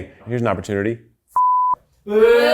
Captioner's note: beep